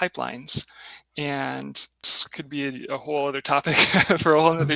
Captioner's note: laughs